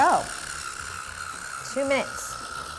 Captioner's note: machine running